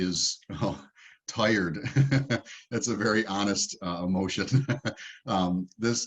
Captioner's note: laughs